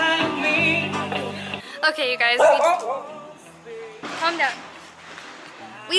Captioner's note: our siberian husky talking